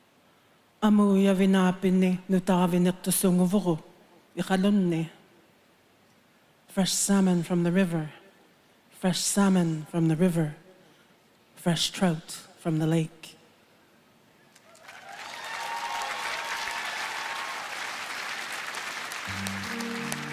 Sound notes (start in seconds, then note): 6.9 speaking indigenous language